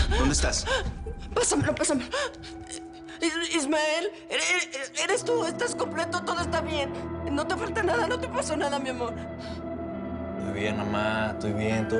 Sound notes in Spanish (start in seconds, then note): 4.6 Sollozando